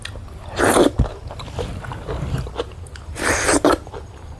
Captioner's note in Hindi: नाक से की जाने वाली आवाज़